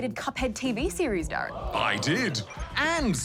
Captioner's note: audience exclaims